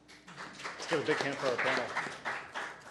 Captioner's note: applause